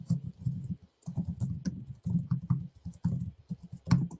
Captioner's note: typing